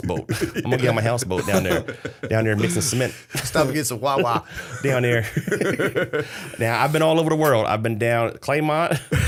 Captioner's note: laughter; laughter